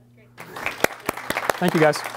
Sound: applause

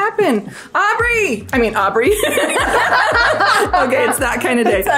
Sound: group laughs

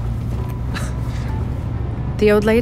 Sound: chuckle

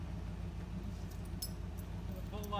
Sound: clanking of chains

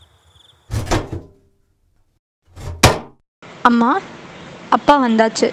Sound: door opens

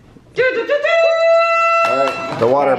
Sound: cheering

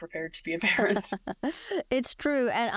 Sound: laughs

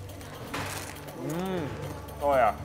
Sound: crunching

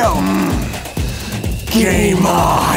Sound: growls

